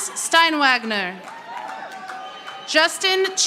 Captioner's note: audience applauding